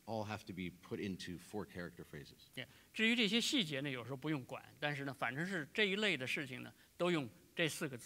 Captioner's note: speaking in Chinese